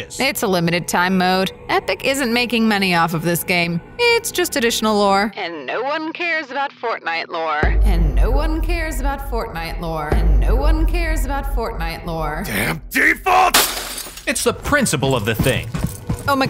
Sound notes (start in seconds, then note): 13.4 glass breaks